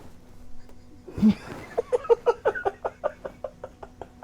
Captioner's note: laughing